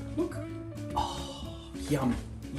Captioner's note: sighs excitedly